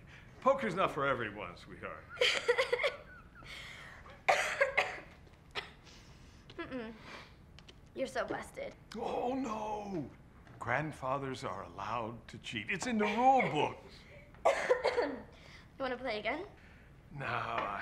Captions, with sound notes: - Poker's not for everyone sweetheart. (loud coughing) - Mmm mmm, you're so busted. - Oh no! Grandfather's are allowed to cheat. It's in the rule books. - Wanna play again? - No I,